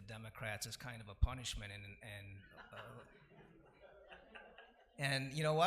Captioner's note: laughing